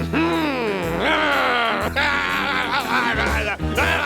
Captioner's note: growling; grumbling